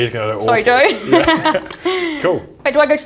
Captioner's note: laughs